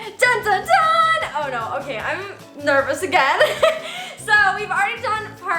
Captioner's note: laughs